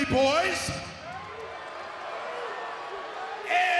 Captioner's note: crowd boos